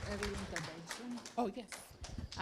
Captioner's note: clapping; indistinct conversation